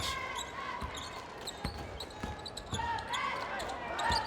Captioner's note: cheerleaders chants